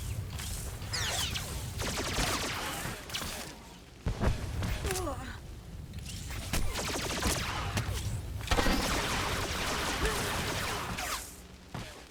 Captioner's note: gunshots